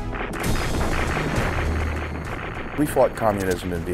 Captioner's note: explosions